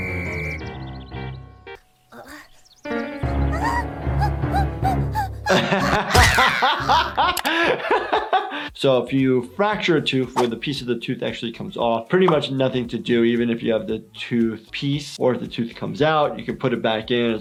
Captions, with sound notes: (playful music) (dramatic music) (laughing) So if you fracture a tooth where the piece of the tooth actually comes off, pretty much nothing to do. Even if you have the tooth piece or if the tooth comes out you can put it back in as long